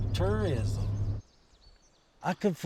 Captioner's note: birds chirping